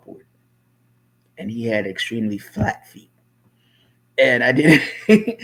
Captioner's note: laughs